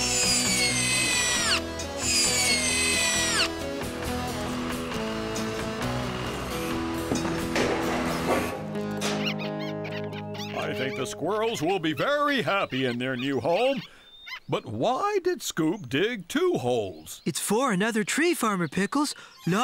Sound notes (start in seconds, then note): 0.1 high-pitched Whirring; 7.1 clank!; 9.2 squirrels Chattering